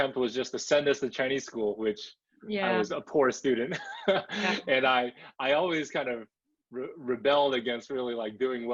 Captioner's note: laughs